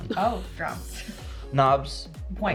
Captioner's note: chuckles